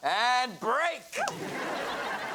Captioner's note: whooping; audience laughs